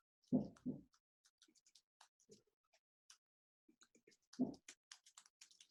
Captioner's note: computer keys clicking